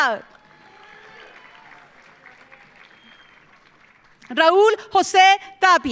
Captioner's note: audience cheering; audience applauding